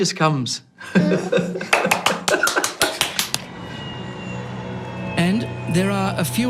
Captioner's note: laughing; clapping